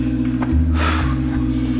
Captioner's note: sighs